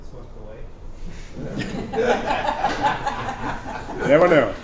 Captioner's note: laughter